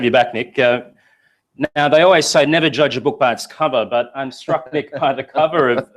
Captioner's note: laugh